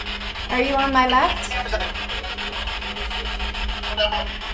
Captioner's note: static buzzing